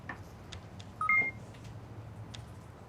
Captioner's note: computer beeping